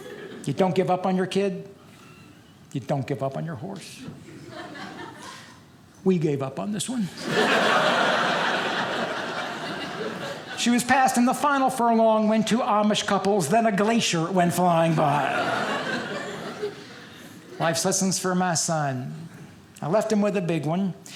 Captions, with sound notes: You don't give up on your kid. You don't give up on your horse. We gave up on this one. (audience laughing) She was passed in the final for a long wind, to Amish couples, then a glacier went flying by. (audience laughing) Life's lessons for my son. I left him with a big one.